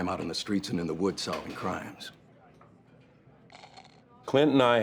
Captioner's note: slurping